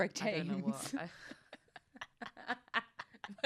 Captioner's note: laughs